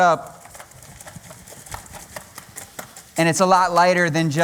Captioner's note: chopping